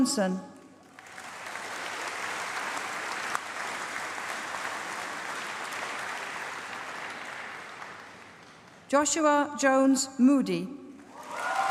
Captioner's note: applause; applause